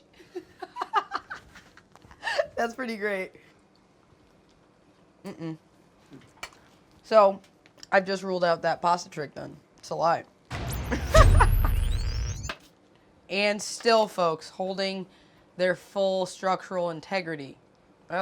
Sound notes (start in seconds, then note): 0.1 laughs; 10.5 dramatic music; 10.9 laughs